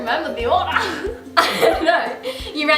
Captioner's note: laughs